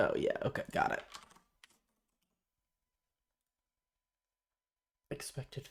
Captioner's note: silence